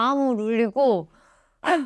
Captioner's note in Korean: 스읍